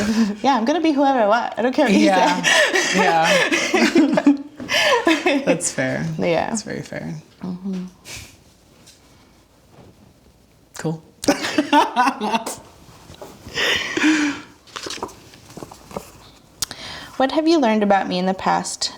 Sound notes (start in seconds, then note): 1.9 both laugh; 11.3 laughing